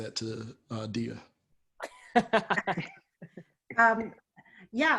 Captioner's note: laughter